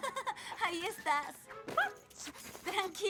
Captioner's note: yip